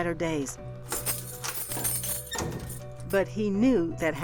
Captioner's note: keys jangling